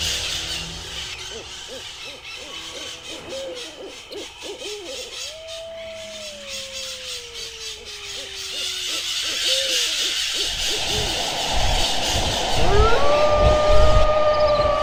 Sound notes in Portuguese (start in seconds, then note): 1.6 Canto da coruja; 10.3 Vento forte; 12.7 Uivo distante